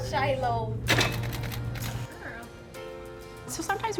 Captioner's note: banging door switch